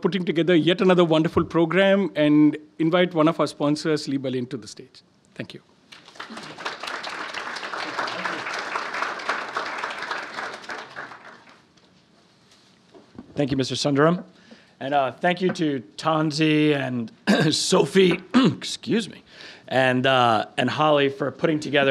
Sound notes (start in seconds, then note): 5.9 applauding; 17.2 clearing throat